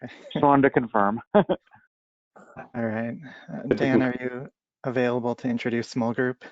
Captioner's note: laughter